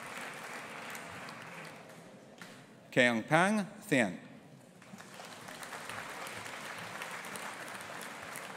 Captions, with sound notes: Kaung Paing Thein. (AUDIENCE APPLAUDING)